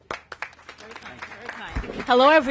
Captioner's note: applause